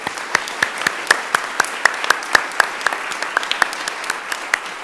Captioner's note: audience applauding